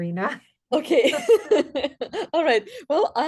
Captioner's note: laughs